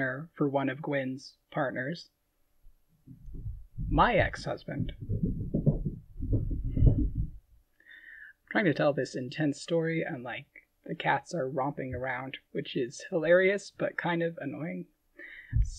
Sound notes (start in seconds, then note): 4.7 thumping in background